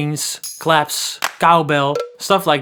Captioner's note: tambourine jingle; hands clap; cowbell clanks